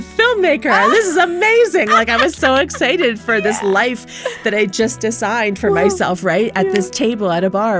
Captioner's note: laughter